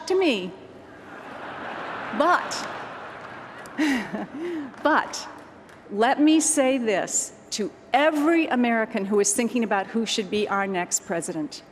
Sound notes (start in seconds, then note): 0.9 laughter